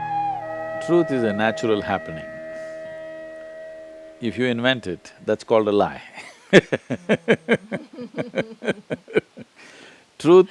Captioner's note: both laugh